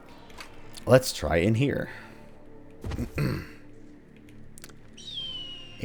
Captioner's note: clears throat, hawk keens